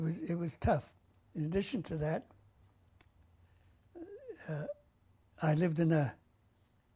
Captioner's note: pauses for 3 seconds